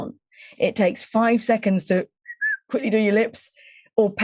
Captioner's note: whistling